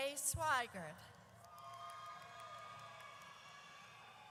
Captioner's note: audience cheers